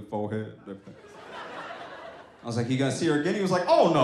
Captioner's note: audience laughs